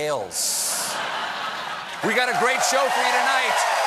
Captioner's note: cheers and applause